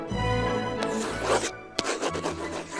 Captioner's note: writing sounds